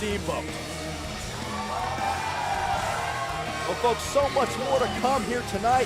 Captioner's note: crowd cheering